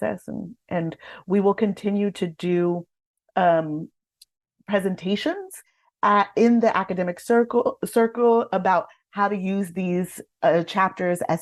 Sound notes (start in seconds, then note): none